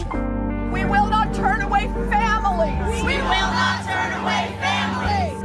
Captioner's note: crowd echoes